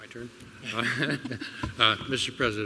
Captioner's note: laughter